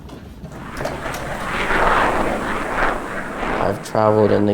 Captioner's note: airplane swooshes